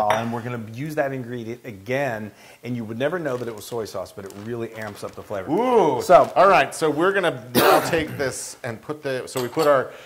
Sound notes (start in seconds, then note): 7.5 cough